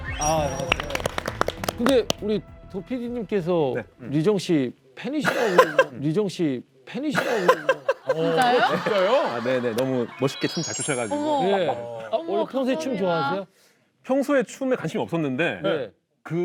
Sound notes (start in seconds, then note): 7.2 giggling